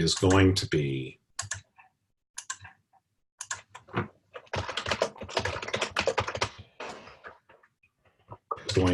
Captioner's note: typing Sounds